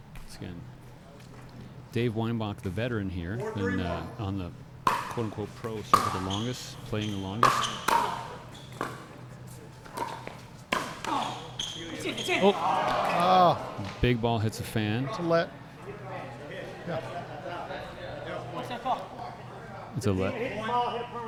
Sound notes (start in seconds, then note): 7.0 ball being hit; 8.2 shoes squeaking